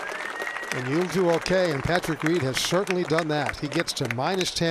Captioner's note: applause